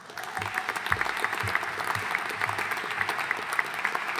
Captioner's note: audience applauding